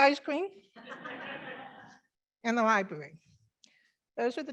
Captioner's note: members laughing